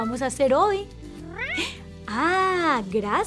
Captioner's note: meow